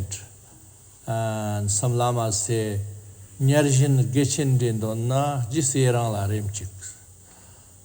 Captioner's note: tibetan